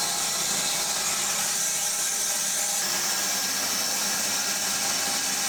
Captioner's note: saw whirring continues